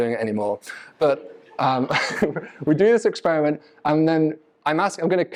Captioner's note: audience laughs